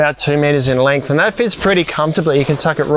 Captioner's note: fabric hissing